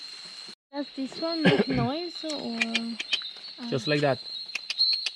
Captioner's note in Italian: Clic - suono